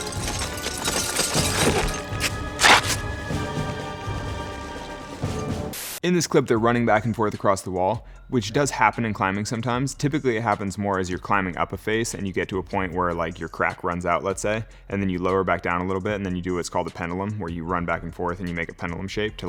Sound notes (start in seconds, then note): 0.1 intense music; 1.6 rope tearing